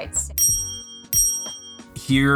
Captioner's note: bell dings